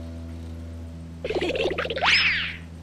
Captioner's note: giggling